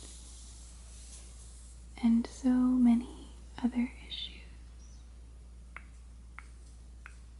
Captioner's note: mouth clicking sounds at each finger tap